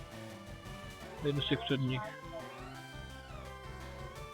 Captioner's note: background chatter